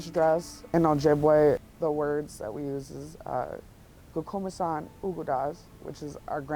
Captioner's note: speaks Indigenous